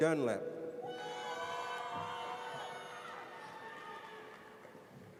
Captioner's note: audience cheers